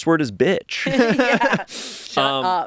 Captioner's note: everyone laughs